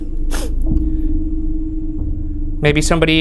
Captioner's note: sniffling